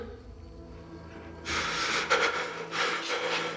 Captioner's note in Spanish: Sollozos